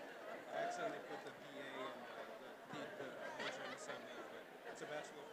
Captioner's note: people chattering